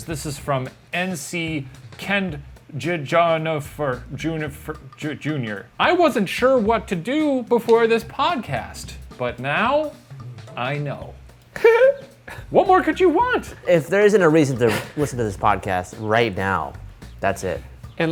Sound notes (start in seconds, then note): 11.5 giggles